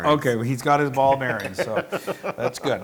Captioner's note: laugh